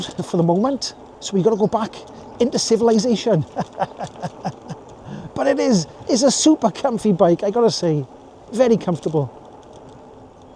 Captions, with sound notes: for the moment, so we've got to go back into civilization. (laughs) But it is, it's a super comfy bike, I gotta say. Very comfortable.